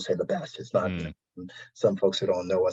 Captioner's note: audio distortion